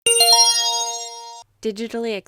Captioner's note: chime